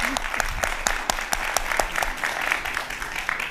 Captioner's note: applause